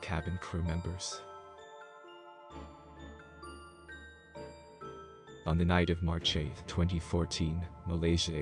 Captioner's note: voice-over